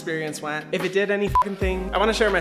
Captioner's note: beep